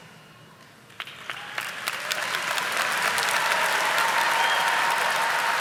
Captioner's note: audience applauding